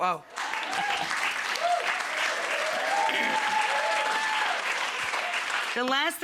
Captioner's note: crowd clapping and cheering